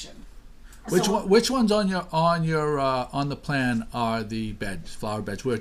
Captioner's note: voiceover